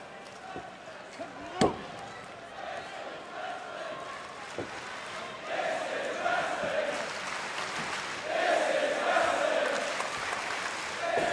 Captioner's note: crowd cheering